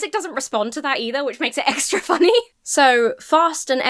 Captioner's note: laughs